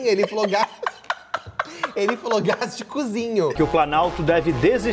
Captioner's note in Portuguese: risos